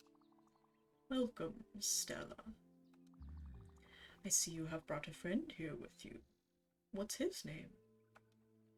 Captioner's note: normal voice; deep Charon voice